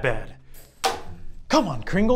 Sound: hits table

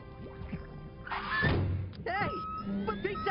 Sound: thuds

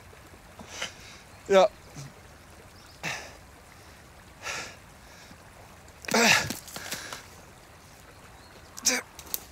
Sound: moans

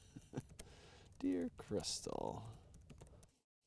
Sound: laughing

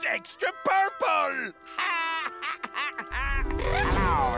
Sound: laughing

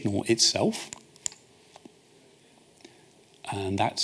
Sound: clicks

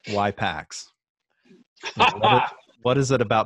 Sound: laughing

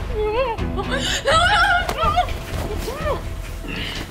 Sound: yelling

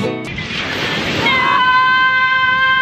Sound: waves crashing

